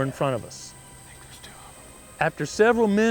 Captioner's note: whispering